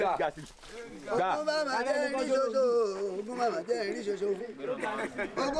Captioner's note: speaking foreign language